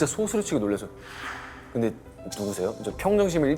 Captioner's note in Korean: 스윽